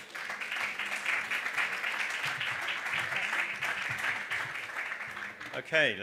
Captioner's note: audience applause